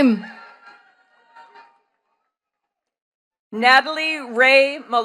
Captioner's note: attendees cheering and clapping